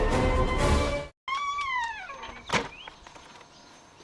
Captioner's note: door creaks